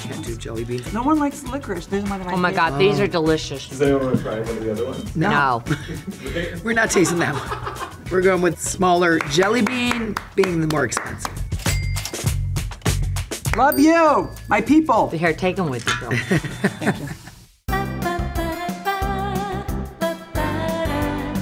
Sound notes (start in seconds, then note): 5.6 producer laughs; 11.6 cash register dings; 17.7 upbeat music continues